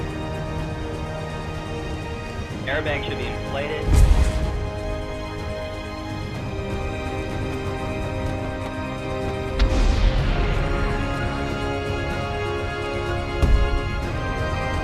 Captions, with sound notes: The lander separation should have ocurred about now. Airbag should be inflated. (parachute deploys) (intense music)